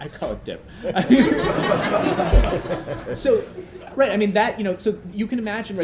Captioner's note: laughter